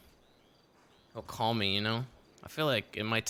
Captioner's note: cricket noises